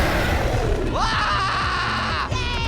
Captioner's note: freezer bursts open; Pear screaming